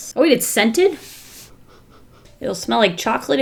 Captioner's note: sniffs